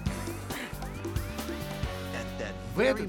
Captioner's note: grunts